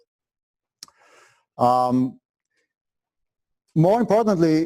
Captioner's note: pause